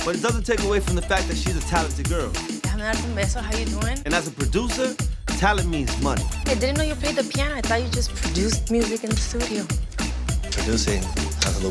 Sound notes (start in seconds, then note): 3.1 speaking Spanish